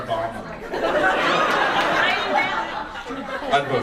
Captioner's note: audience laughs